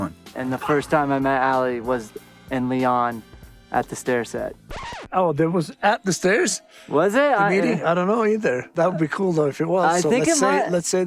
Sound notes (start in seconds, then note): 4.6 record scratch